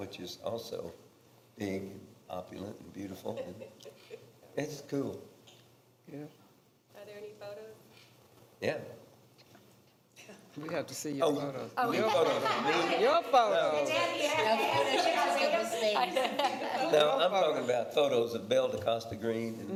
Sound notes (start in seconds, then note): 11.9 others laughing; 14.7 others laughing and chatting